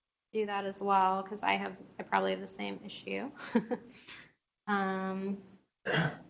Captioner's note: chuckles